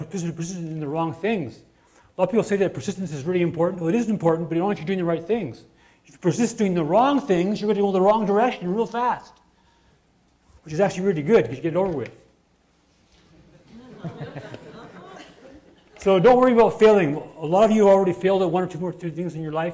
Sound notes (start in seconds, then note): 13.2 laughter